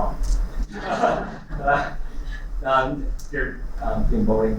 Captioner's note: laughter